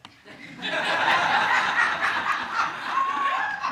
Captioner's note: audience laughing